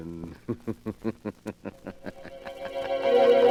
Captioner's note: laughter